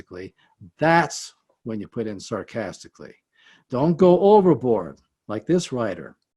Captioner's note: sarcastically